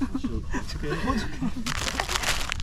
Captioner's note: with vlog tone